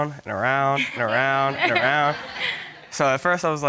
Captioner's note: all chuckling